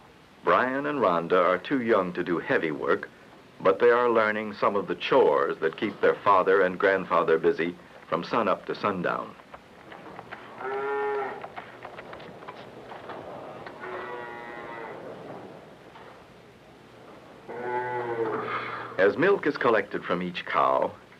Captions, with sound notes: Brian and Rhonda are too young to do heavy work, but they are learning some of the chores that keep their father and grandfather busy from sun up to sundown. *cows mooing softly* As milk is collected from each cow,